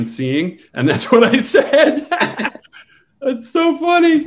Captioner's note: laughs